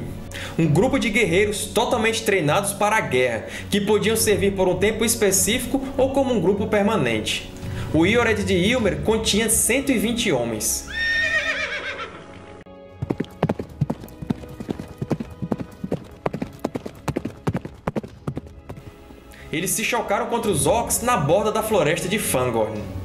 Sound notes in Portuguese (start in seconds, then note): 10.8 relincho